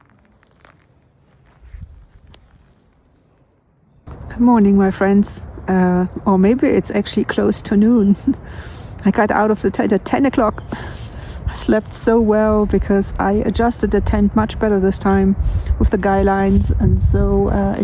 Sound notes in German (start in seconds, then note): 8.1 lacht